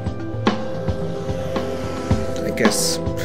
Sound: street traffic becomes audible

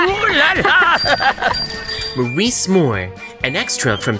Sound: uncle Continues laughing; Jean Laughing; laughing

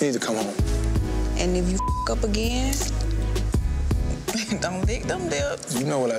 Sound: beep

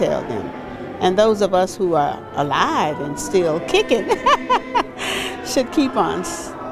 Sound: laughs

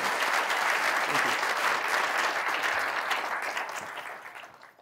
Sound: applause

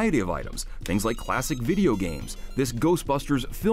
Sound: beeping

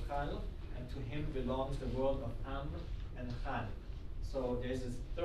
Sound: speaking arabic; speaking arabic

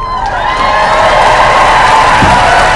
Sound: applause

